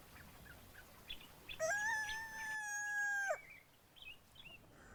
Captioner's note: rooster crowing